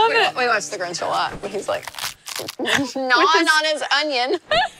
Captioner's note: vegetable crunching; laughs